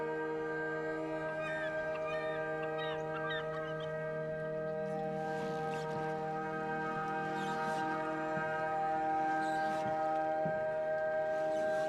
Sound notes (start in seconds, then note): 0.9 seagulls squawk